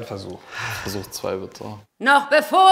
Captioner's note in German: Seufzen